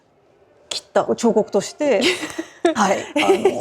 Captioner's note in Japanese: 笑い